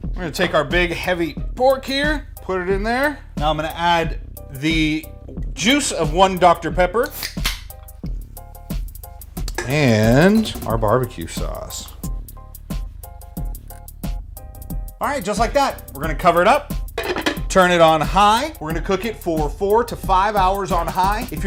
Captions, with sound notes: We're going to take our big, heavy pork here, put it in there. Now I'm going to add the juice of 1 Dr. Pepper. (can opens) And, our barbecue sauce. (light hearted music) All right, just like that, we're going to cover it up, turn it on high. We're gonna cook it for 4 to 5 hours on high.